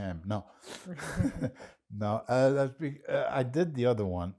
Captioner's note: laughing